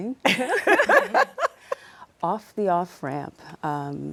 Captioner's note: laughter